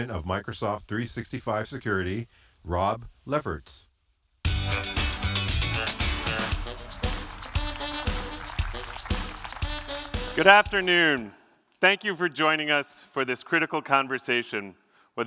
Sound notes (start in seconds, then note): 5.5 applause